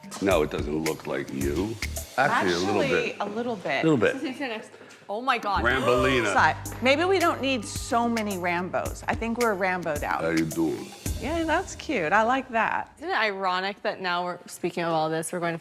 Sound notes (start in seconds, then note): 5.7 gasping